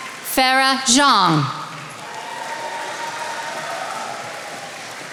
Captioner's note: attendees applauding